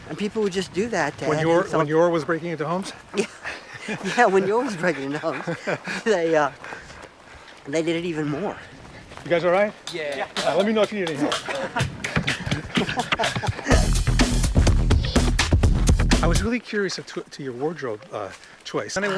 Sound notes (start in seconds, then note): 2.8 laughs; 12.0 upbeat electronic music